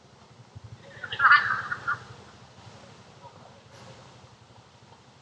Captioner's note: people laughing